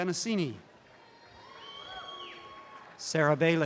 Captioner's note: audience cheering